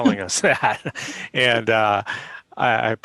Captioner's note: laughter